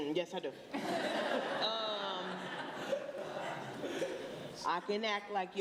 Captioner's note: laughter